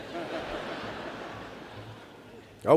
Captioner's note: laughter